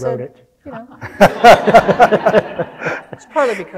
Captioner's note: audience laughing